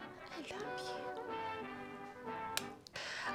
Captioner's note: mwah!